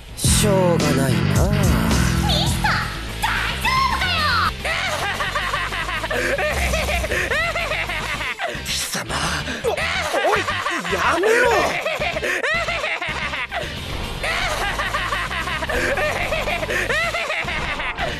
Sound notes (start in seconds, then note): 12.2 laughs again; 14.2 continues laughing like a super reatard. stupid